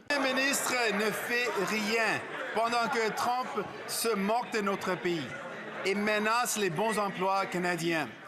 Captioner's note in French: voix de l'interprète